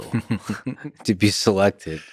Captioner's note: Tim laughs